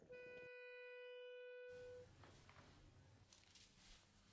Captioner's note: long beep